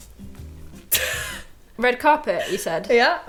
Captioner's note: laughing